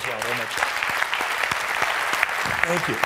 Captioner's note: clapping